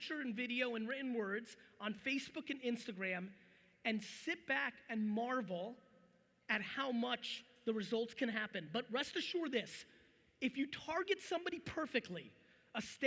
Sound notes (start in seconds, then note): none